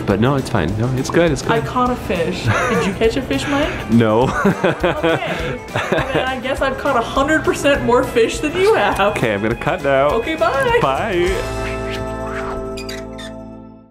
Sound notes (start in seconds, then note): 2.4 laughing; 12.0 soft music